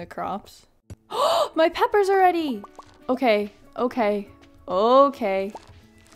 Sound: gasp

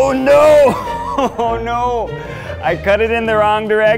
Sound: chuckling

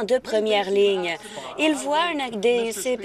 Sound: none

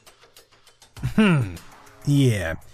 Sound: ahem

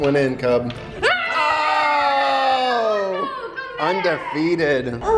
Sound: all cheering

